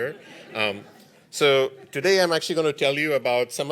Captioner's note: laughter